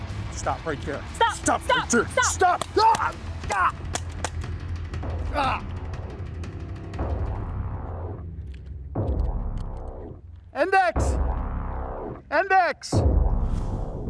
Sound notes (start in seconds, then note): 3.0 gun clicks; 3.0 yells and groans; 13.8 suspenseful music